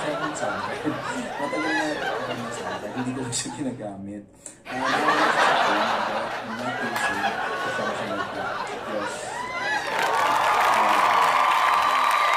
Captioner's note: laugh